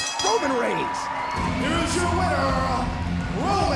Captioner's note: bell ringing